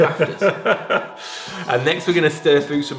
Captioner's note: laughing